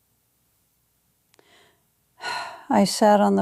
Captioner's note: long pause